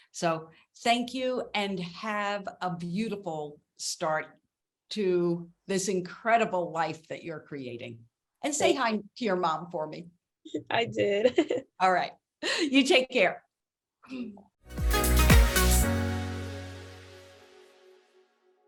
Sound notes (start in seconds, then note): 10.7 laughs; 14.6 upbeat music